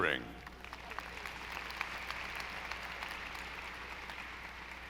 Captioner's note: audience applauding